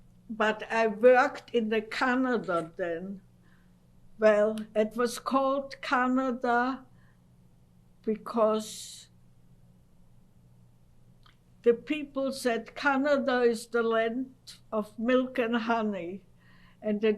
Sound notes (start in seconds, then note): 8.8 pauses for 3 seconds